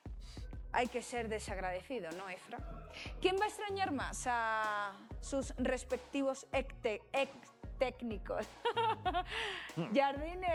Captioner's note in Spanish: risas